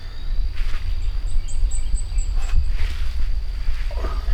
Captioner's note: birds Chirping